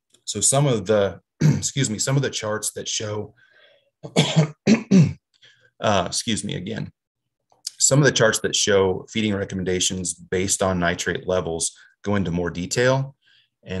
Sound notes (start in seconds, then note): 1.4 clears throat; 4.0 coughs